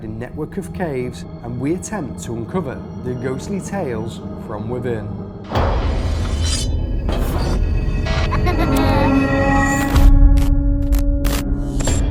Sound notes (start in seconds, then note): 5.5 whoosh; 7.4 eerie music; 9.9 static